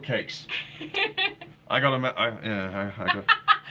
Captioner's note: laughing